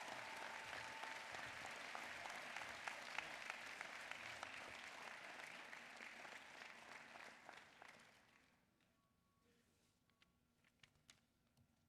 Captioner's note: applause